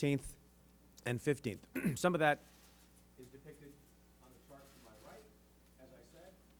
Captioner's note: clears throat